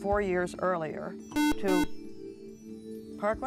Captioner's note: buzzer